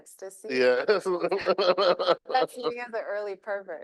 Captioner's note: laughing